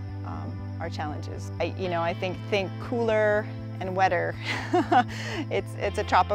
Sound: laugh

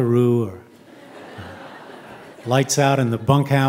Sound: audience chuckling

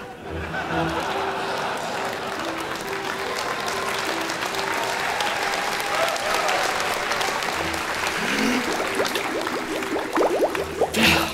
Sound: laughter, applause

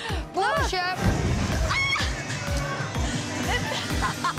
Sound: shrieks; laughs

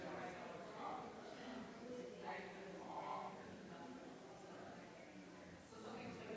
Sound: people chattering distantly continues

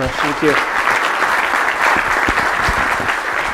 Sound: applause

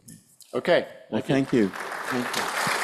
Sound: applause

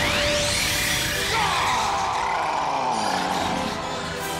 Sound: roaring

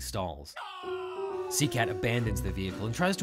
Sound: man screaming

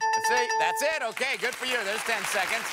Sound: bell rings

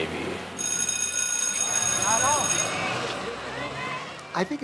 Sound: school bell rings

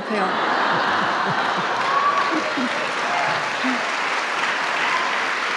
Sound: laughter and applause

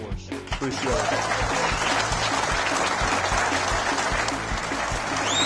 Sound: cheering

